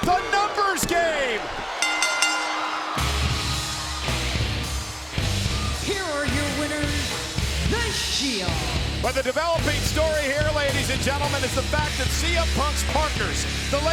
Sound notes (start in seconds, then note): 1.8 bell rings